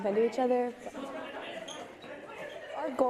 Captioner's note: group chatter